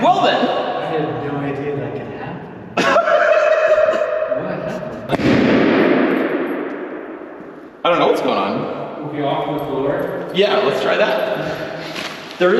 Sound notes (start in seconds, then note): 5.1 balloon banging